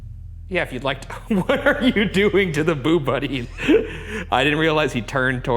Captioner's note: laughs